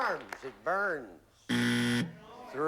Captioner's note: buzzer